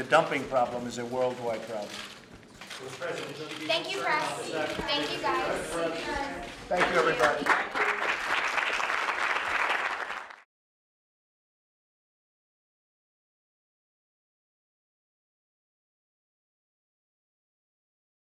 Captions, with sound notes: The dumping problem is a worldwide problem. Thank you, everybody. (Applause.)